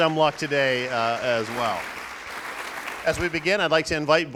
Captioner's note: applauding